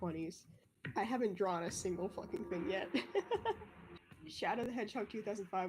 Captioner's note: laughs